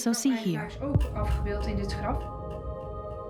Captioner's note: speaks Dutch